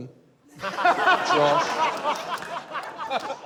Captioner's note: laughter